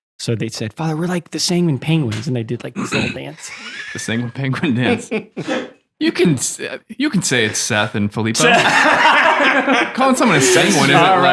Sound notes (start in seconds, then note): 3.3 laughing; 8.4 all laughing